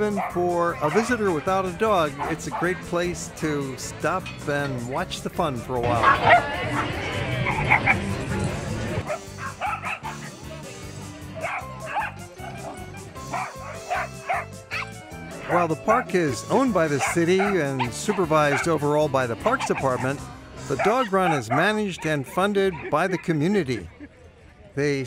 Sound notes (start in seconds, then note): 14.9 dogs bark